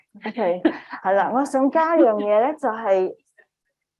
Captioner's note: speaking chinese